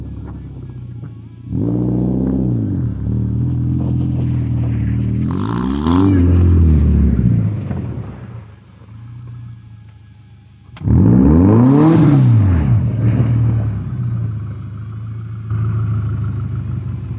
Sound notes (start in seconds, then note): 7.2 engine revving; 16.2 engine clattering as if it just got it's sh*t reamed